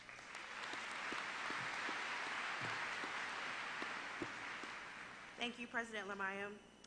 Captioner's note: applause